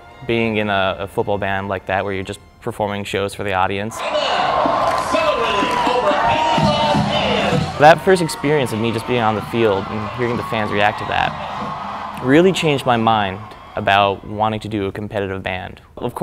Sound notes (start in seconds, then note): 6.5 crowd cheering